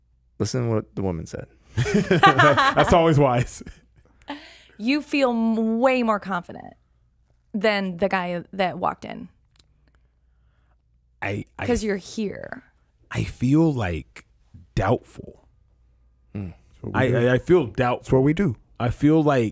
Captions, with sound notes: Listen to what the woman said. (everyone laughing) - That's always wise. - You feel way more confident than the guy that walked in. 'Cause you're here. - I feel doubtful. I feel doubt.